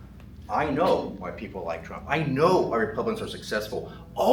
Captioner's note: none